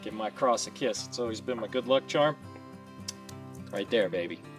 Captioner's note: kiss noise